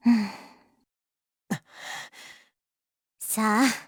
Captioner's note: silence